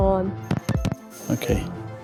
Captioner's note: record scratching